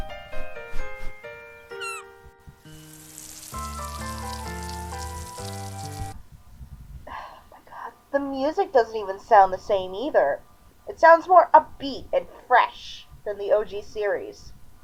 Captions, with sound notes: (seagull cawing) (water running) Ah my God, the MUSIC doesn't even sound the same either. It sounds more upbeat and fresh than the OG series.